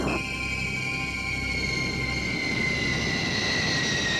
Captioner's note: airplane squealing